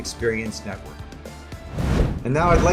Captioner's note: whooshing graphic noise